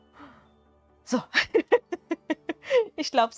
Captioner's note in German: gelächter